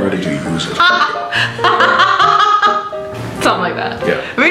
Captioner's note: she laughs hysterically